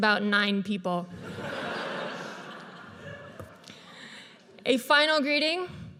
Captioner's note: audience laughs